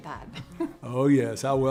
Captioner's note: chuckles